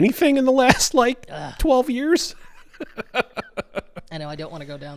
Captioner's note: laughing